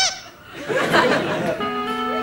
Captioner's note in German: Kreischen